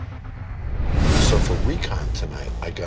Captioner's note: intense drum beat; air whooshing